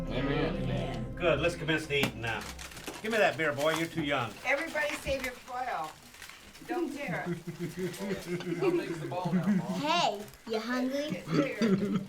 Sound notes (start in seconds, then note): 2.7 Duncans eating; 7.0 children giggling